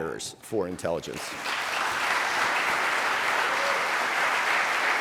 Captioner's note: audience applauding